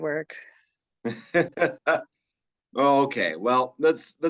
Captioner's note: chuckles